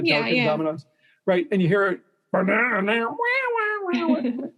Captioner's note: imitaging guitar